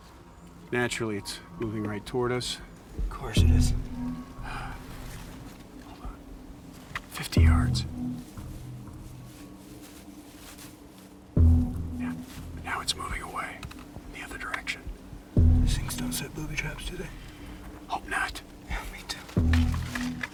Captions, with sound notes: Naturally. It's moving right toward us. - Of course it is. - Hold on. 50 Yards. (undergrowth rustles) (tense music) Now it's moving away in the other direction. - These things don't set boob traps do they? - Hope not. - Yeah, me too.